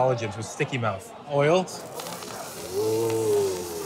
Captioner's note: steam hissing